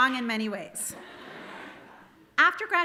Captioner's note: audience laughing